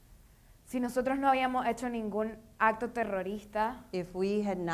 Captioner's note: speaking in foreign language